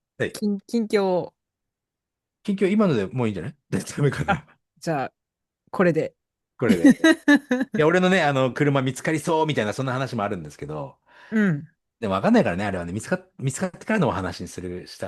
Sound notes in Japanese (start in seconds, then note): 6.7 笑い